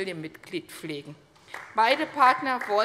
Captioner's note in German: Beifall bei Abgeordneten der CDU